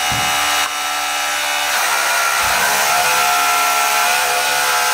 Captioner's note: mechanical whirring